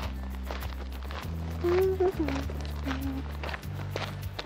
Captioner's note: humming ♬